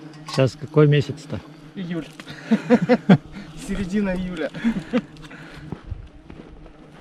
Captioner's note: laughter